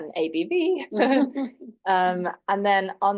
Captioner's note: laughs